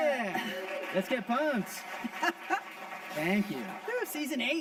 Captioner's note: audience applauding